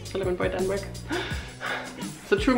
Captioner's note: V dramatic sigh